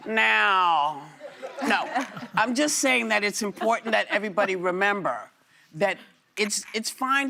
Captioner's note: laughter